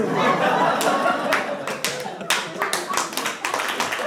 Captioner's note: audience laughs; audience applauds